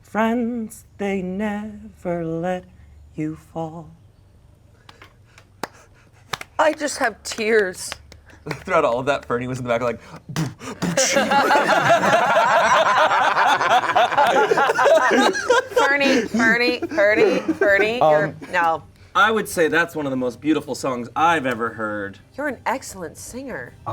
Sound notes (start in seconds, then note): 6.2 hands clapping; 10.0 beatboxes; 10.6 players laughing